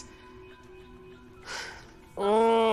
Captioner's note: Jonathan groans